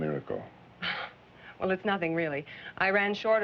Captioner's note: chuckles